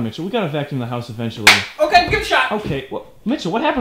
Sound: clap

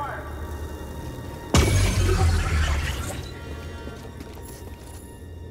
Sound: laser fire

